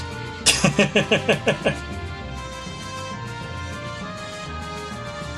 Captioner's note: laughs